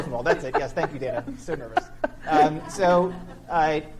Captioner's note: laughing